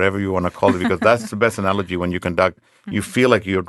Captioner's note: laughing